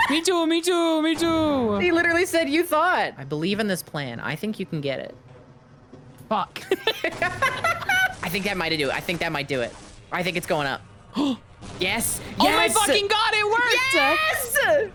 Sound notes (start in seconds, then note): 6.6 both laugh; 11.1 gasps